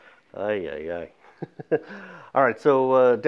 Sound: laughs

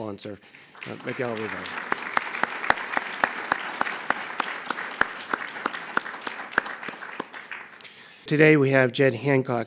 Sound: applause

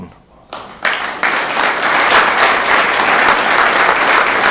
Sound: room applauds

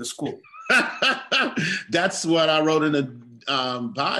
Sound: laugh

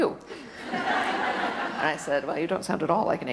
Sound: audience laughter

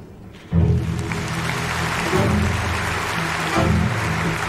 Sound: applause

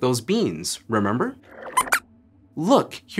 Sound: squeaks squeaks

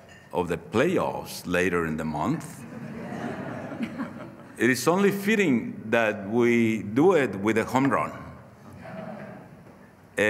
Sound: laughter

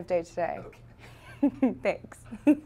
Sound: laughing

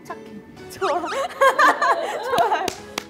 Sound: mature laugh

